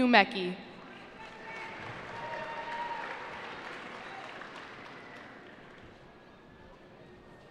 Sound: cheering

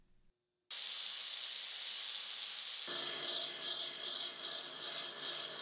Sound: grinders whirring

